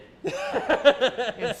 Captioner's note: laughs